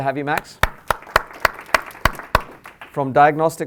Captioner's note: applause